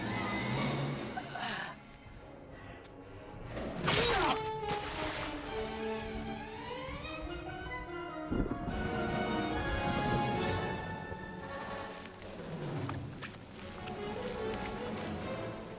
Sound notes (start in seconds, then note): 3.9 water splashes; 9.0 thunder rumbles; 12.9 dramatic music